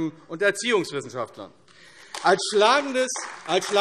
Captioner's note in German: Beifall AfD